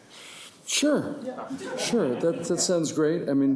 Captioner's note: audience giggling